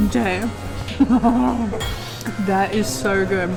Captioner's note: maniacal laugh